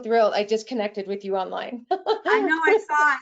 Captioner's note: laughing